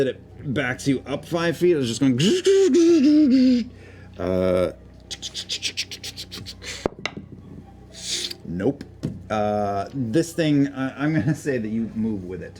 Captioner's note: mechanical noises